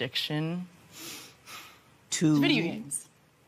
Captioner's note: sighs